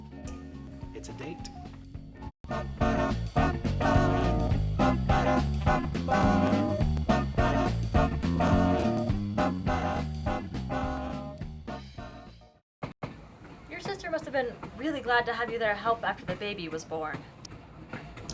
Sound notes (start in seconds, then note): 12.7 train rattling